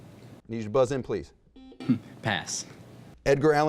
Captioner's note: buzzing